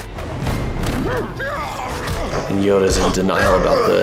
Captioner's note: fighters grunting; dramatic orchestral music